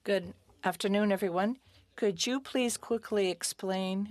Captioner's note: speaking French